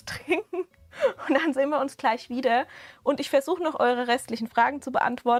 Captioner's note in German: Gelächter